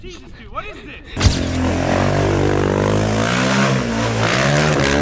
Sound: quad bike engine

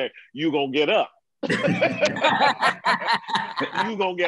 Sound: laughter

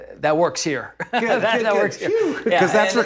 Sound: both laughing

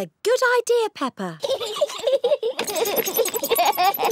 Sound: both giggling

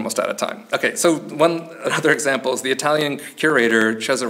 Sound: chuckles

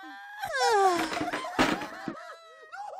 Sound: groans

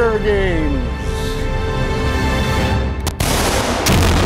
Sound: explosion

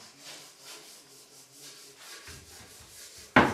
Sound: distant work noises

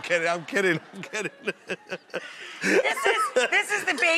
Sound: audience laughs; laughs

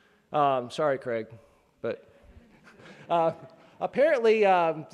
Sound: laughing

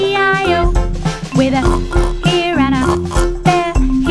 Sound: oink

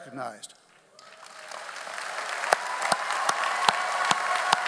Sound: audience applauds

